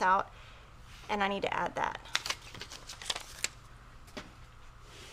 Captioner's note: paper rustles